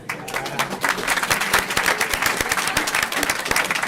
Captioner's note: applause